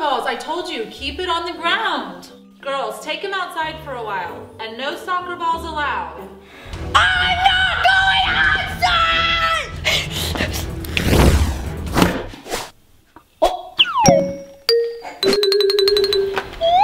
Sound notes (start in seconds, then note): 10.8 flames whooshing; 13.8 playful music